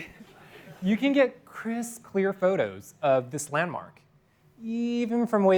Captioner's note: laughter